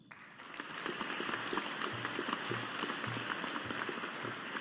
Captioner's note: audience applauding